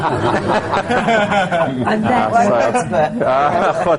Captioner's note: laughter